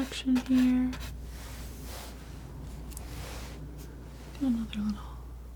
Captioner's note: scratching